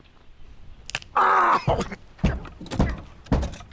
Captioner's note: finger bone snapping